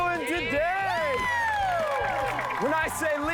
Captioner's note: cheering